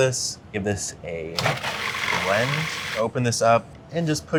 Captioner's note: processor whirring